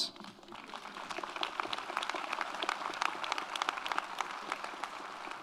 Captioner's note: audience applauds